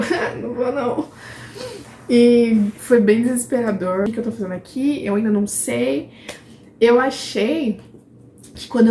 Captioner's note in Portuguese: risadas